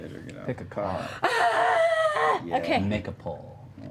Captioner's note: yells